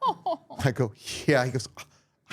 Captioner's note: laughs